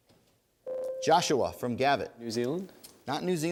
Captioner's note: ding